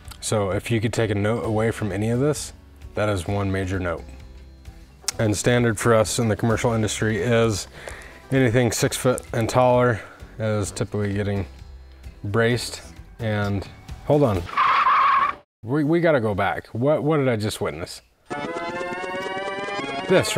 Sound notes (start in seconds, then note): 14.5 breaks screeching